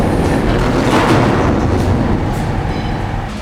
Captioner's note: door clangs